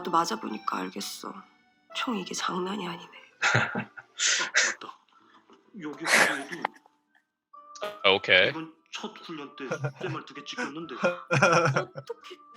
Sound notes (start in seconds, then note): 3.4 chuckles; 9.6 laughs